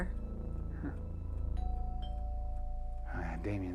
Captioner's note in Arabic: رنين جرس الباب